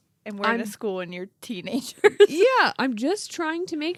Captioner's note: laughs